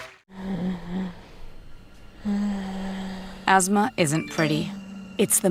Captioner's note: wheezing